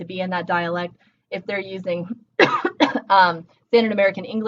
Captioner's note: speaker one coughs